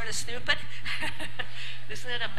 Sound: laugh

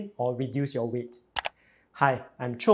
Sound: mouse clicks

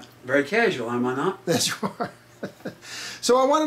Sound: chuckles

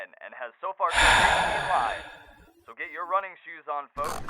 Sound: sigh

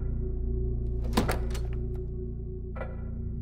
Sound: door opens

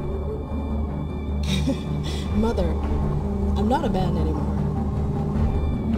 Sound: laugh

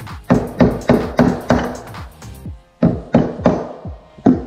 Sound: hammer banging

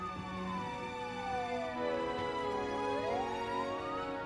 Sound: siren blaring

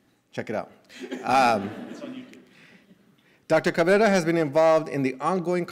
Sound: laughter

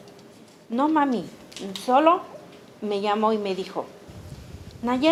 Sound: speaking Spanish

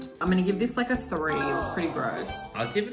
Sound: bell chiming; audience sighing

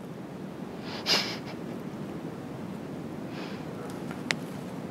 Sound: laughing

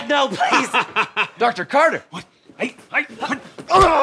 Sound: laughter

